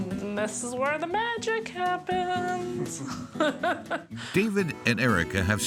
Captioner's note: laughs